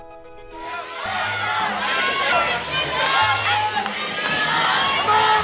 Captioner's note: cheerleaders chanting